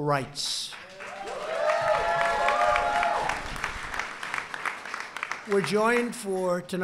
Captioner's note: applause